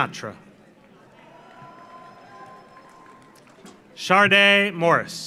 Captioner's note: audience applauds; audience cheers